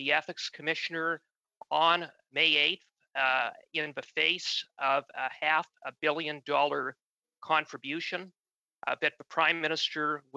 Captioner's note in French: voix de l'interprète